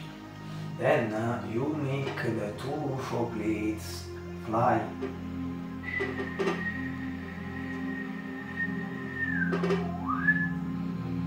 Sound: whistle

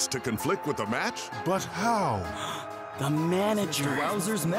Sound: gasping

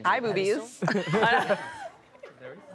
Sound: laughter

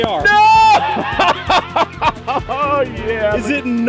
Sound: exclaims, laughs

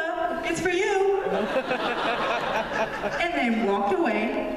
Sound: laughter

